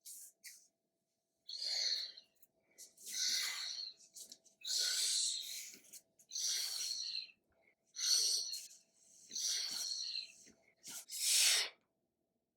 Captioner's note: air/breathing sounds